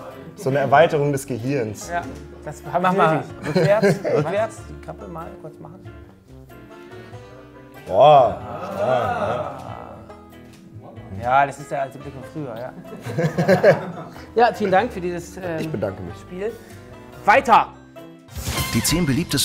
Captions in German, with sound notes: So 'ne Erweiterung des Gehirns. - Ja. Mach mal rückwärts. - Rückwärts? (Heitere Musik) Boah! Ah! Ja, das ist der alte Blick von früher. (Lachen) Ja, vielen Dank für dieses ... - Ich bedanke mich. Weiter.